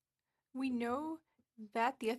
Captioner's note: speaking French